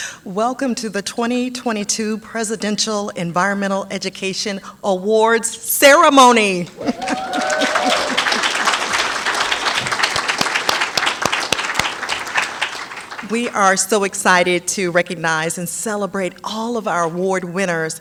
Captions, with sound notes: Welcome to the 2022 Presidential Environmental Education Awards Ceremony. [APPLAUSE] We are so excited to recognize and celebrate all of our award winners.